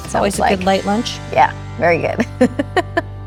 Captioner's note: laughing